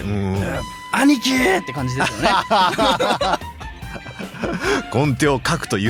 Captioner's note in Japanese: 笑い